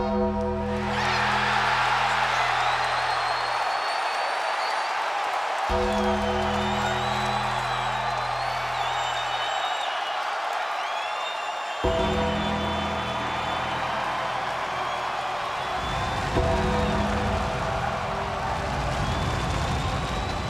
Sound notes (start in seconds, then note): 0.2 crowd cheering; 0.2 gong tolling; 13.7 creepy music; 13.7 crowd cheering; 16.3 fire roaring